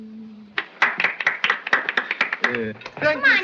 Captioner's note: applause